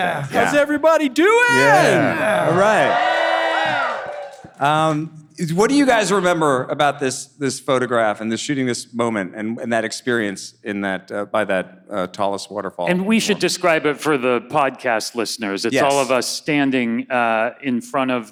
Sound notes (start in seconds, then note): 2.5 audience cheering